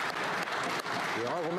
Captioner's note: some Applause